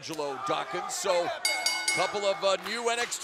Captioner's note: bell ringing